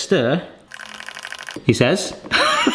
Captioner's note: stirring